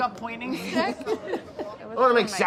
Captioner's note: laughs